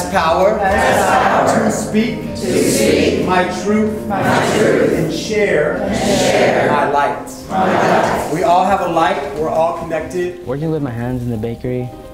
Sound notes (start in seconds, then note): 0.6 group of voices, offscreen; 2.1 group of voices